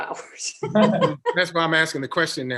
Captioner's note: laughs